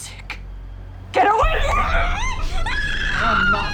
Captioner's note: muffled screaming